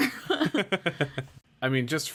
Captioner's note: laughs